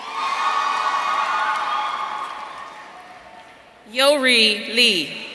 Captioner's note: audience cheering